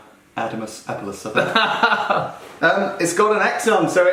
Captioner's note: laughing